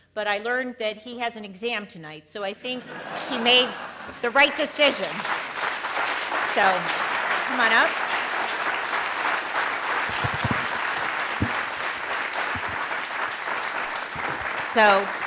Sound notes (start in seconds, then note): 2.8 audience laughs; 5.3 audience clapping